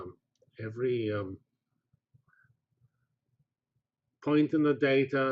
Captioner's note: pause